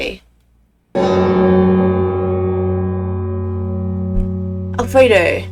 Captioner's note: extremely loud bell noise